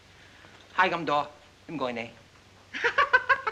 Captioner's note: speaking in Chinese; woman laughs